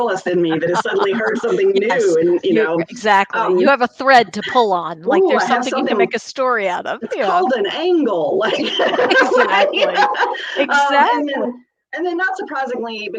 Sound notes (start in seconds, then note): 8.4 laughs